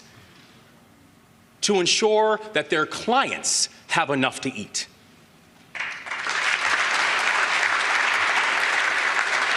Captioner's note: applause